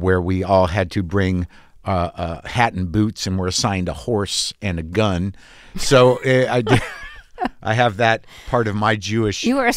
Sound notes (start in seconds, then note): 6.5 laughter